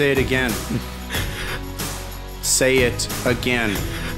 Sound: sobs

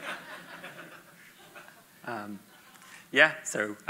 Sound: audience laughs

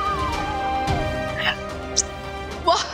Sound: kissing

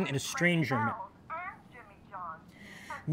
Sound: woman on phone

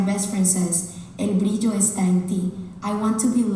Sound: speaking Spanish

